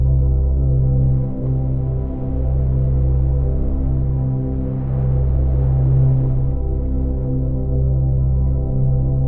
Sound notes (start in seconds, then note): 2.0 waves rustling